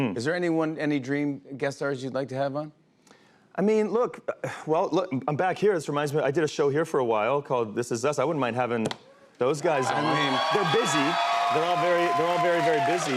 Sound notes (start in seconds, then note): 9.5 cheers and applause